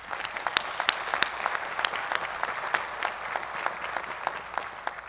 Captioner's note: applause